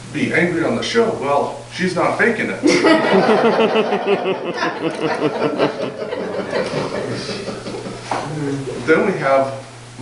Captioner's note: audience laughter